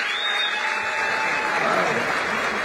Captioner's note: applause